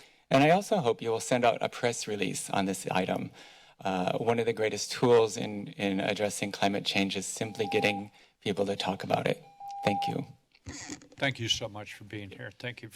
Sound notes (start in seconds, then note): 7.4 beeping